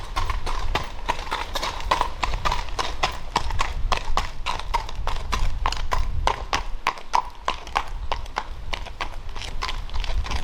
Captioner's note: walking noise